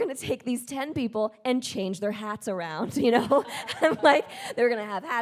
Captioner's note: chuckles